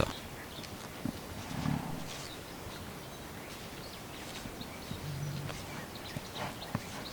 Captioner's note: cichy śpiew ptaków, szelest chodzenia po pniu, pomrukiwania dorosłego samca